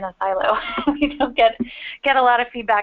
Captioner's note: laughter